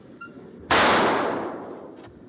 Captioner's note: gunshot